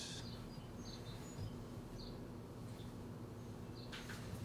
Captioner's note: canto de pájaros